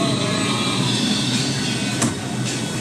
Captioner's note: radio playing